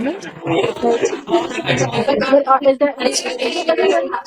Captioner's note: laughter